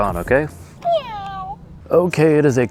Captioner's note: meow